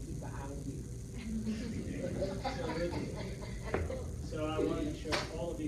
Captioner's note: laughter